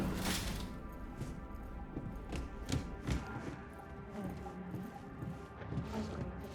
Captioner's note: ringing